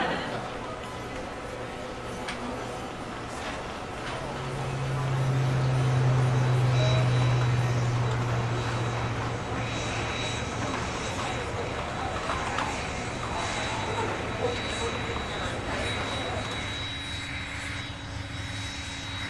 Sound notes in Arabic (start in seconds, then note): 0.2 موسيقى الأوركسترا الكلاسيكية; 7.4 رنين منخفض